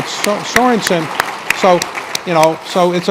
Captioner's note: applause